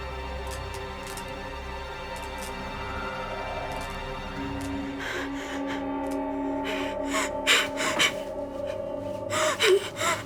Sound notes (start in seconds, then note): 6.6 Kara cries